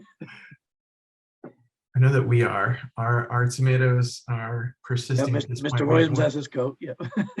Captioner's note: laughter